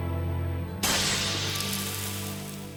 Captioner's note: shatter